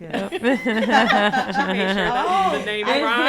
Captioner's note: panelists laugh